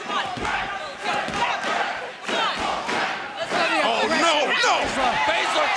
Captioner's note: crowd chanting